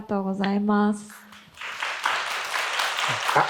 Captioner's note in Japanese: 拍手